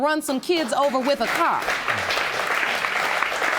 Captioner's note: audience applauding